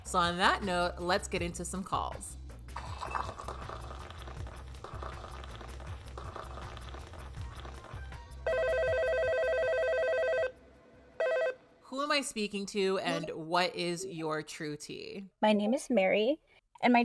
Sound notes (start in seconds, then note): 2.7 gentle music; 2.7 tea pouring; 8.4 phone ringing